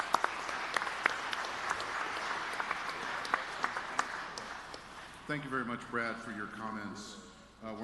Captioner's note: applause